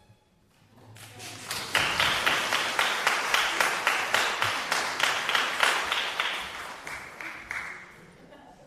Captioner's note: applause